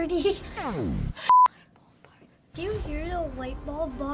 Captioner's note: beep